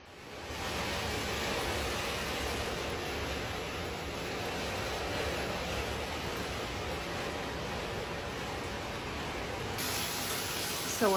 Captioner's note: rain sounds on our deck/roof